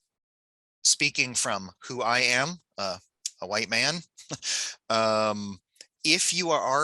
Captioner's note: chuckles